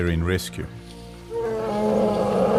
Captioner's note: animals calling; trumpeting